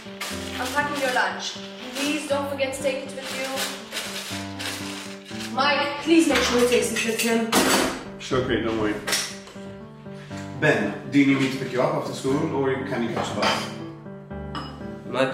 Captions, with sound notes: I'm packing your lunch, please don't forget to take it with you Mike, please make sure he takes it with him! [CUTLERY CLANGING] Sure Kate, don't worry Ben, do you need me to pick you up after school or can you catch the bus?